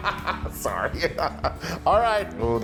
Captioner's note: laugh